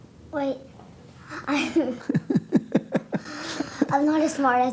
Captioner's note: laughter